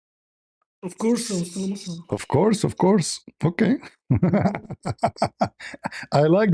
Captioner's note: laughter